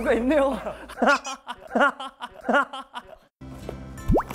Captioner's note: Laughing